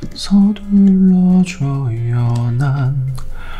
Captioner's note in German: summt ein Lied